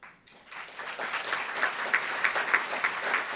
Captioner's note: applauds